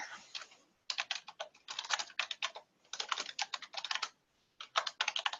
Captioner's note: keyboard keys clacking